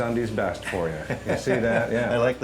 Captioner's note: laughter